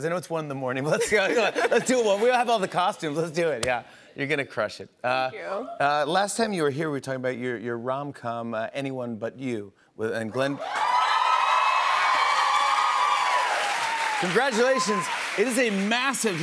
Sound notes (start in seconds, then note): 10.5 cheers and applause